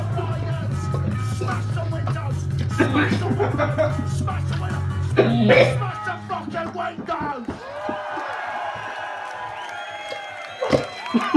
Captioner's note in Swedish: diverse kräkryck och fniss